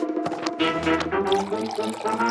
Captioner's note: coffee pouring